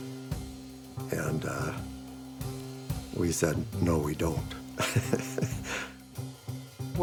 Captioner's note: chuckles